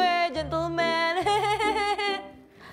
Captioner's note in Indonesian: Ketawa